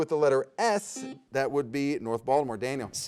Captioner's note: buzzer beeps